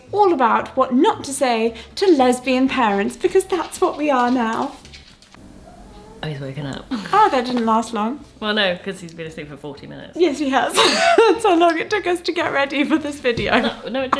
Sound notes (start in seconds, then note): 5.0 whines; 10.6 laughs